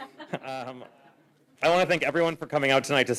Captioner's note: laughter